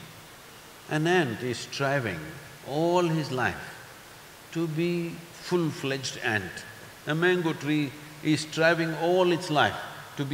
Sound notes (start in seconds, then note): none